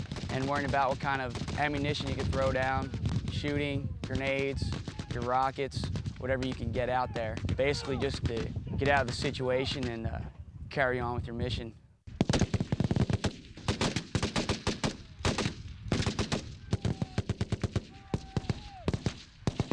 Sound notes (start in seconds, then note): 12.1 continuous gunfire